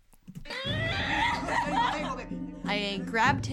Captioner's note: actress groaning